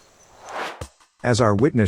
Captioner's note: air swooshes